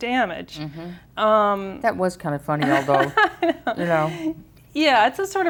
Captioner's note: laughs